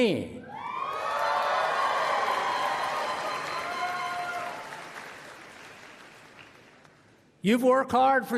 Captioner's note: applause